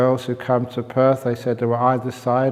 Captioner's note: none